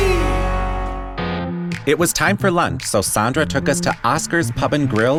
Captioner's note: speaking in Spanish